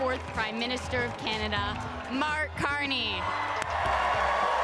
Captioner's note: cheering